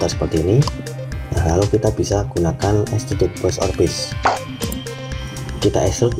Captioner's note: click